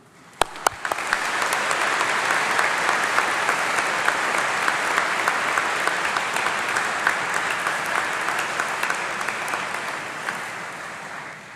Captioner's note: applause